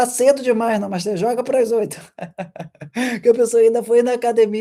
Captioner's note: laughter; sighing